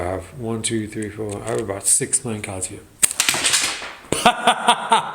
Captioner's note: laughs